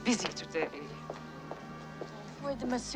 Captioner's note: footsteps